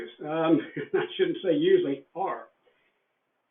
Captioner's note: laughs